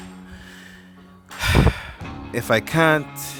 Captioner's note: exhales